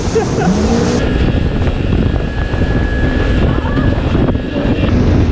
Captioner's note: jet ski roaring; laughing; wind whipping